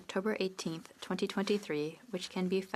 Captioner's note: speaking French